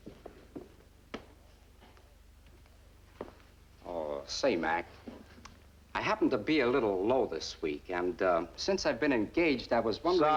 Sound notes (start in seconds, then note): none